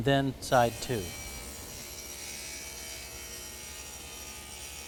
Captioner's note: sound of saw blade cutting material